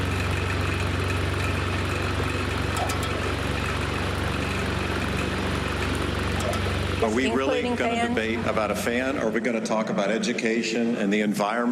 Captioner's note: fan sounds